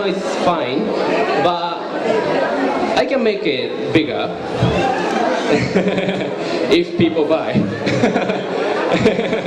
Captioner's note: laugh